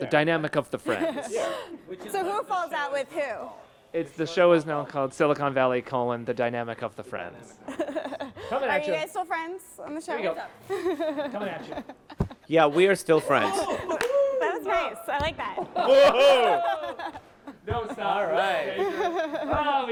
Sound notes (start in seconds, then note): 13.9 cast laughs; 15.7 everyone gasps and laughs